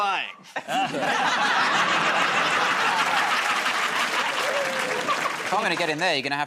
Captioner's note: laughter